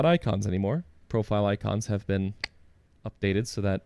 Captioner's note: click